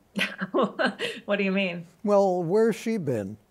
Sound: laughs

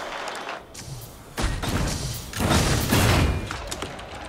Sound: guns firing; keyboard clicking

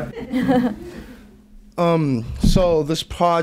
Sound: group laughs

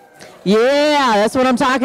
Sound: audience cheering

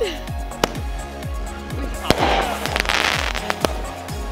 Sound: fireworks bursting

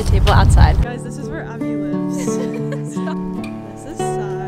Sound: giggling

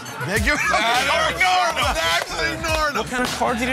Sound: muffled shouting

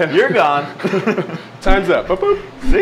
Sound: laughs

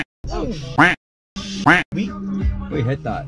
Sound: quack

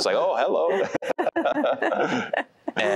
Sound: laughter

